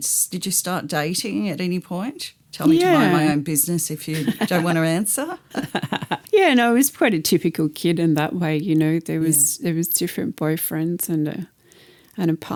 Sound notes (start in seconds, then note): 5.4 laughter